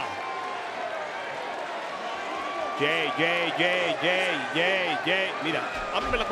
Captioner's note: applause